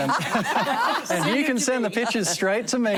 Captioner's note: laughter